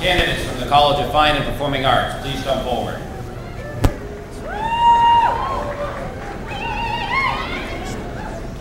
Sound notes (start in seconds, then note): 3.4 cheers and applause